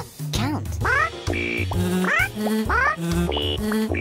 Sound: pigeons yell

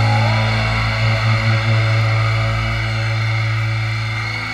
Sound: crowd cheers

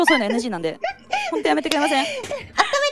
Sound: laughing; serious tone

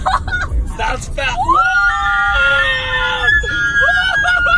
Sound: laughs; both screaming

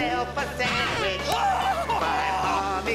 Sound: screaming

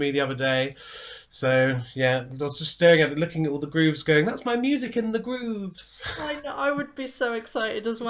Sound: giggles

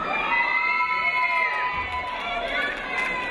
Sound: cheering

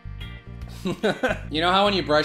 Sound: mirthless giggle

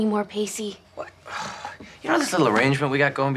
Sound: sighs

